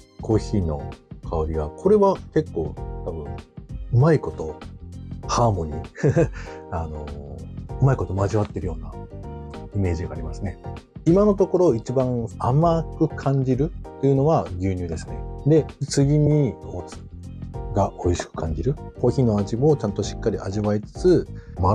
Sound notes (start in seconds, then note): 6.0 laughs